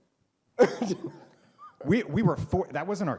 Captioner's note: laughs